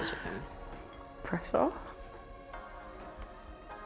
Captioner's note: dramatic voice